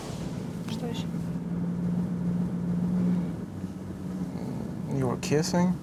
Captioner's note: speaking russian